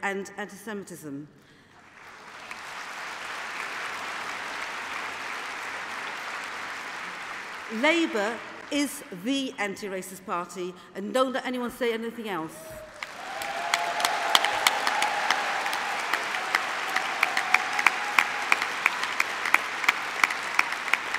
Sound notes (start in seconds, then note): 11.9 applause